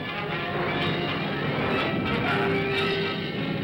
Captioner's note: dramatic ominous music; thunder rumbles